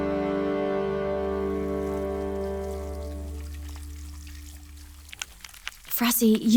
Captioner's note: sounds of running water